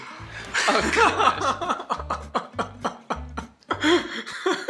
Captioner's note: chuckles